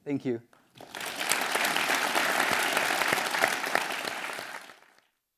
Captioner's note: audience applauding